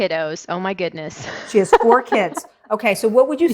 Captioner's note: laughing